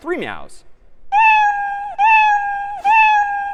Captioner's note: meowing